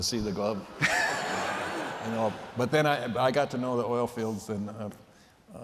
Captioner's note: laughter